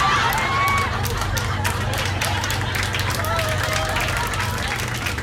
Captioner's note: laughter; cheers and applause